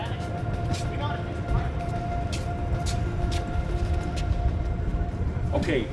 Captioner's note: forklift moving; shoes scuff, wheels turning